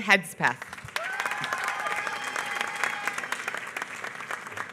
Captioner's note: applause